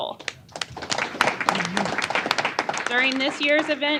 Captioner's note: applause